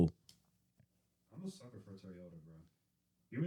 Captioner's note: speaking In Foreign Language